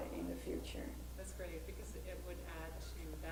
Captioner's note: voiceover